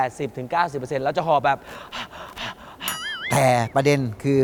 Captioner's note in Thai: ทำเสียงหอบ